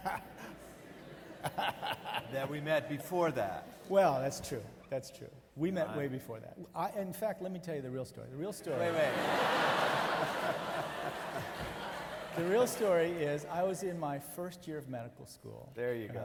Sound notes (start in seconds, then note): 0.0 laughs; 0.0 audience laughing; 8.6 audience laughing